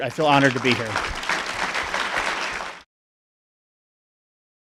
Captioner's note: applauding